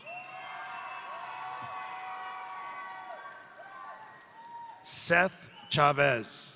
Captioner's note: crowd applauding; crowd cheering